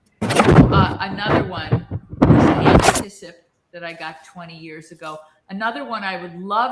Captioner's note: audio noise